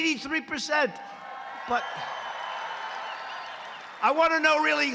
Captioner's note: cheers and applause